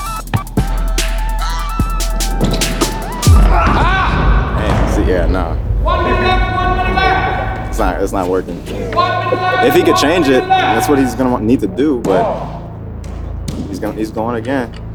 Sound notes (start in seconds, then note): 0.0 upbeat music; 4.0 groans